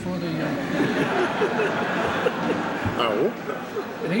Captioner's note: laughter